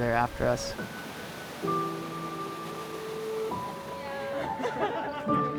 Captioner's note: water rushing